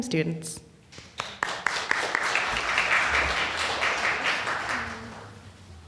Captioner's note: audience applauding